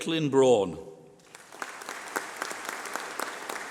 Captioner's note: applause